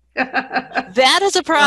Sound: laughs

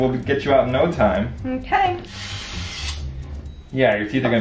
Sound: tool whirs

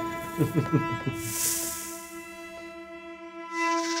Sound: Voldemort chuckles

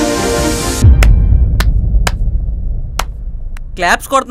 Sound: Chandoo clapping

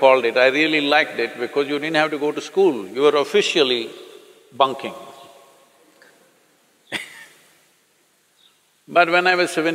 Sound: laughs

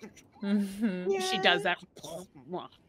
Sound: gargling

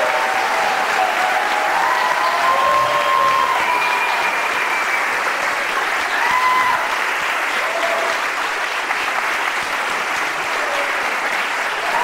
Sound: cheers and applause

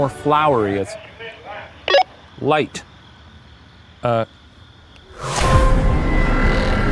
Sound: radio beeping; eerie music

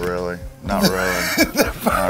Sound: laughs

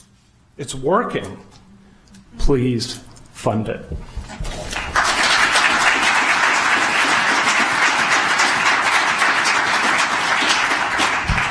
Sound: applause

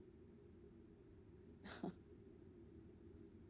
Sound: chuckles

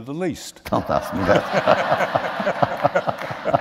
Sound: laughter

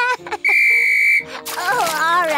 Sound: blows whistle

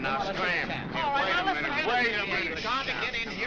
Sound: reporters chattering

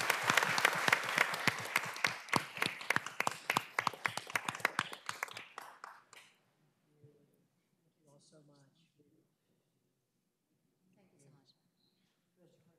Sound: applause

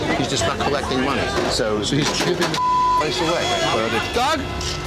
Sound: beep

